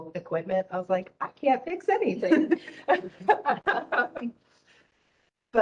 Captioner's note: laughing